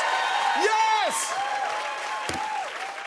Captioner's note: cheers and applause